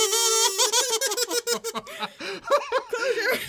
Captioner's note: laughing